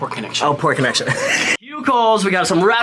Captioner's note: laughs